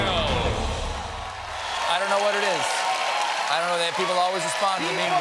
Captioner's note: cheers and applause